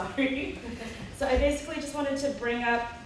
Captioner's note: laughs